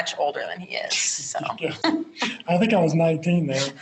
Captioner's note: both Laugh